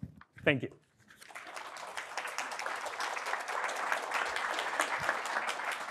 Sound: audience applauding

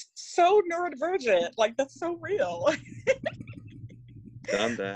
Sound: laughs

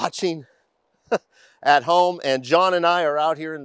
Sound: chuckling

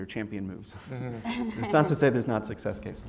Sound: laugh

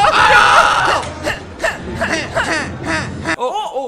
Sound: grunting

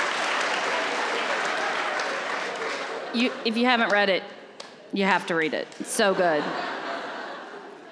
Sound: laughter

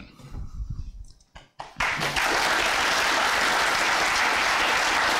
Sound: applause

